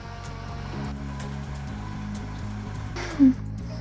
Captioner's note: blender whirring